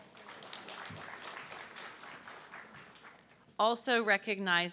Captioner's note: audience clapping